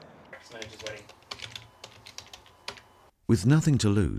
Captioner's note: computer keys clicking; voiceover